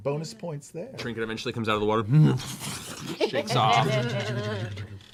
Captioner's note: growl, shaking coat sound